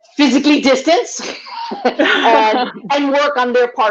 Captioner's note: laugh